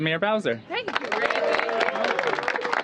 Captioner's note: applause